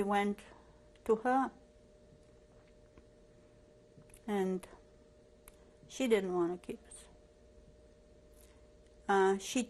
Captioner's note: pauses for 3 seconds